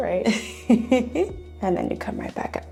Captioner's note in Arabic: يضحك